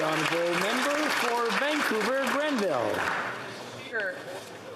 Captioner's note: applause